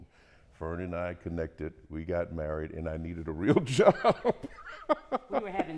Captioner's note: laughter